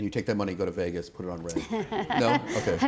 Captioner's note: laughter